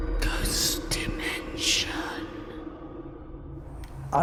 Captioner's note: eerie music; voiceover